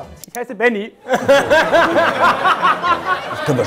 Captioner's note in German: Lachen